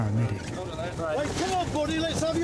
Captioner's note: people chattering